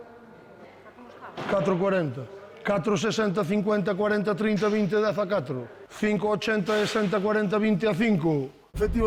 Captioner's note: sound of an auction